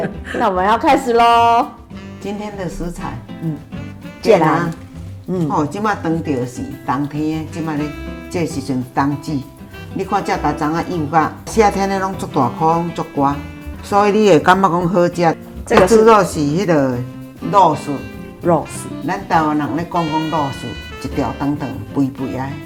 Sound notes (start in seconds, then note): 17.2 in Taiwanese